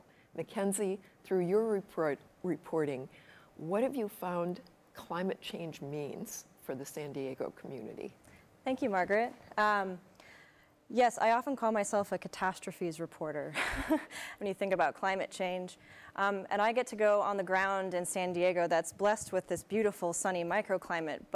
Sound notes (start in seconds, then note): 13.6 chuckles